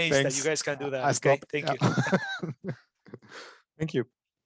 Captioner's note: laughs